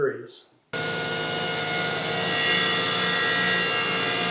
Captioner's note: saw cutting